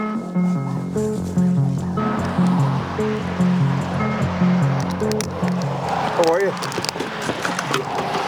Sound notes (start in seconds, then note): 2.7 traffic humming